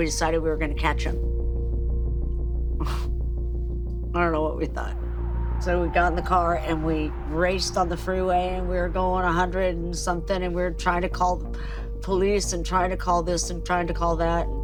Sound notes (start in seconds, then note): 2.3 chuckles